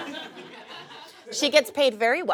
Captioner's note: audience laughs